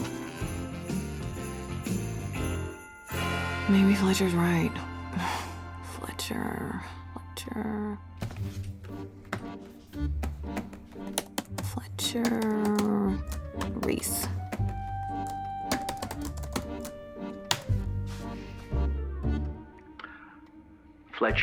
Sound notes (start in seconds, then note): 5.3 sighs; 11.3 typing